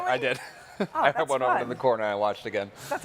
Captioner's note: chuckles